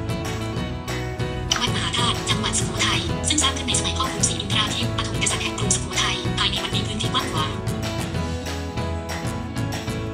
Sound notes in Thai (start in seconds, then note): 1.4 เสียงโทรศัพท์